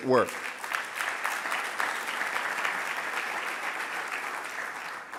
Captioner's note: audience applauding